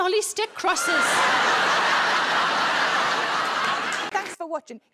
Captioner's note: audience laughs